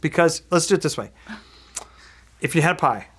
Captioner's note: gasping